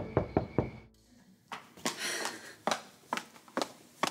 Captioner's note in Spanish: toques en la puerta